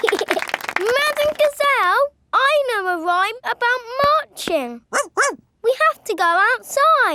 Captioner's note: laughing and clapping; barks